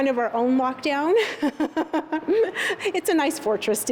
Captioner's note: laughter